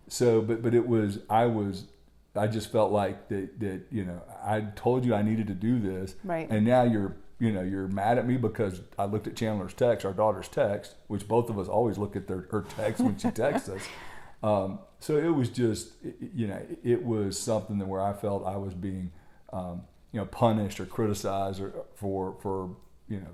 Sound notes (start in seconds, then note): 12.7 laughter